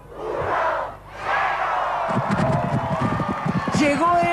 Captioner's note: Spanish